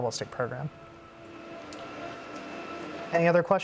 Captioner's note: mechanical whirring